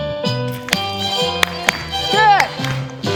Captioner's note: clapping